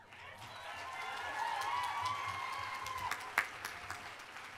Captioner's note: audience applauding